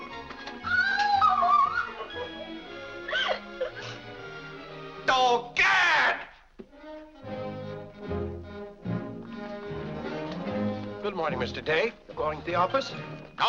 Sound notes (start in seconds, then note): 0.0 upbeat music; 0.6 Mary cries out; 3.0 Mary sobs; 6.8 upbeat music